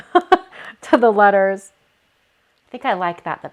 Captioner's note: laughs